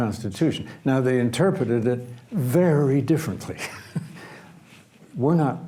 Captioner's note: laughs